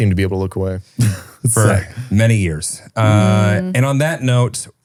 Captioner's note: laughs